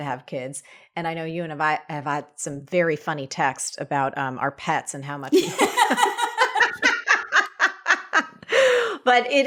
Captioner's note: laughs